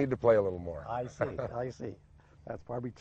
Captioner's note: laughs